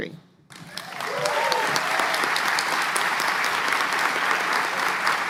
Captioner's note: applause